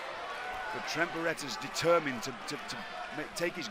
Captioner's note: crowd cheering